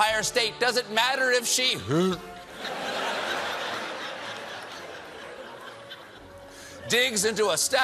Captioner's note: gags